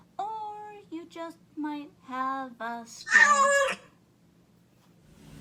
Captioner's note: shrieking cat